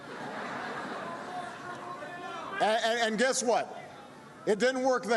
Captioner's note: laughter